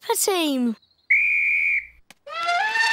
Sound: blows whistle; trumpets

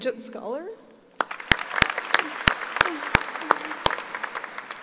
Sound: applauding

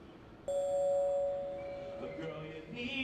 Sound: ding

